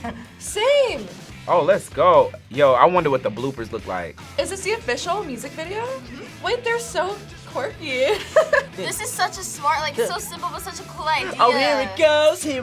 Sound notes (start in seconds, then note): 5.9 laughs; 11.3 sings along